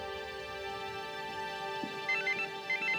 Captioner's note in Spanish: suena el celular